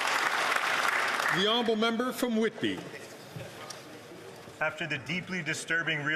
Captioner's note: some Applause